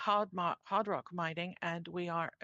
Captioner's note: speaking in French